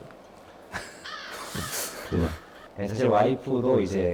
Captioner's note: laughs